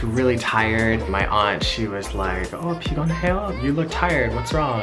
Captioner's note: speaking foreign language